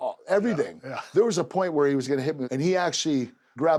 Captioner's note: laugh